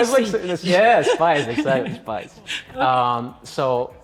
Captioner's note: both laugh